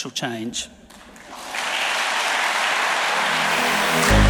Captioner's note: audience applauding; upbeat music